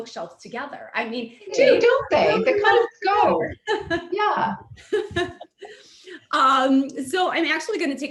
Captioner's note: laughs